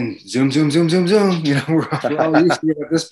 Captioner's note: chuckles